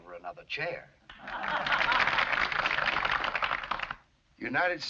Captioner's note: crowd laughs